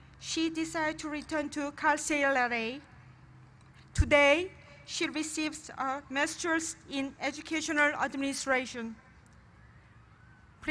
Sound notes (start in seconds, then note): none